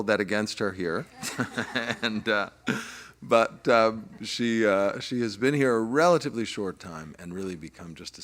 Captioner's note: laugh